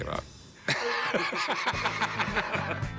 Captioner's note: laughing